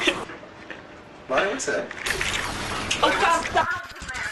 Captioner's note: donald's mom laughs; electrical burst